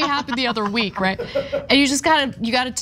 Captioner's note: laugh